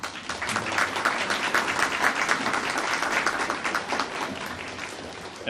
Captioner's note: audience applauding